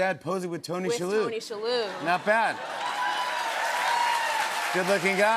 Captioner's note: cheers and applause